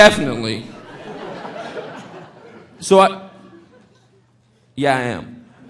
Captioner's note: audience laughing